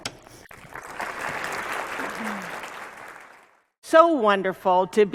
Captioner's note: applause